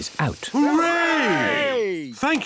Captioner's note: cheering